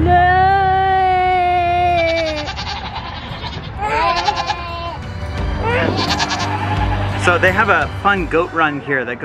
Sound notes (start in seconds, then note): 0.3 bleats; 5.3 goat bleats